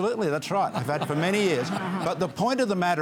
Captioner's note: laughter